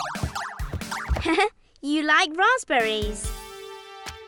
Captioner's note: energetic music; laughs